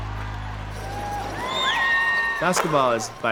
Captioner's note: crowd cheering